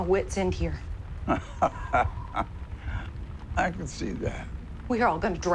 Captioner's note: laughs